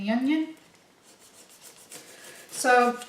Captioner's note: knife cutting onion skin